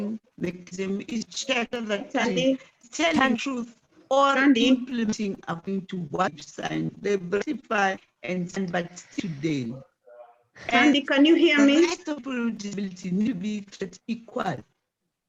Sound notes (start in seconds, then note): 4.2 distorted audio